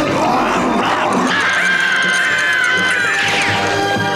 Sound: growling; screaming

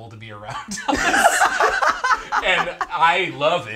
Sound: all laughing

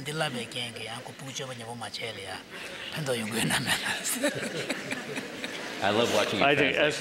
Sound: laughter

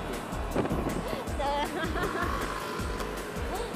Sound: laugh

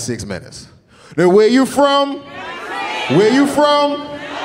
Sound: audience shouting

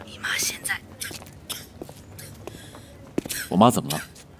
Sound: coughs

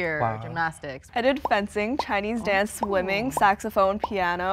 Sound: balloon pops

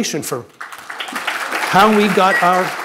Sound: audience clapping

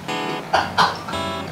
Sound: laughs

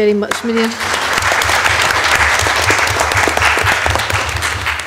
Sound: audience clapping

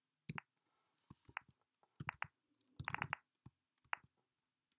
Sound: keyboard clicking

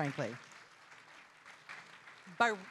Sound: audience applauding

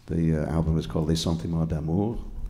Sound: speaking foreign language

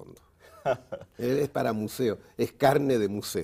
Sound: ríe

